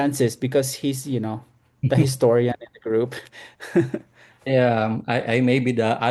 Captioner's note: laughs